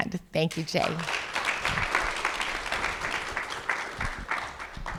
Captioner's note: audience applauding